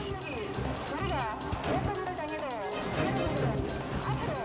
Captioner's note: radio chattering